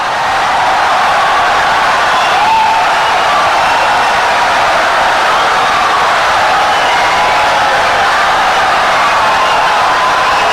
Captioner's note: wild applause and cheering for 17 seconds